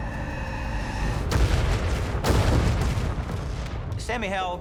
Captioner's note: cannon fire